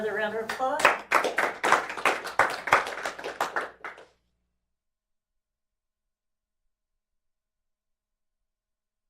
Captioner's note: applause